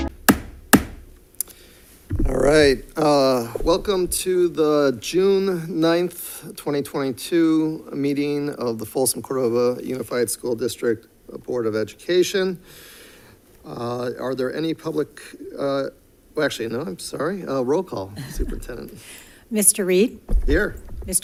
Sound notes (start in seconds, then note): 0.0 gavel bangs